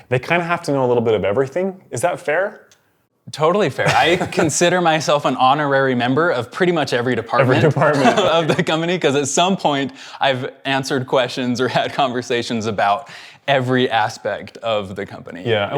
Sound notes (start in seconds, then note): 3.8 laughing; 9.0 chuckling